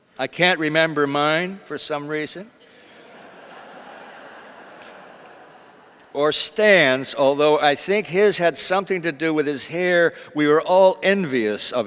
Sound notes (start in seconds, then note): 2.8 audience laughs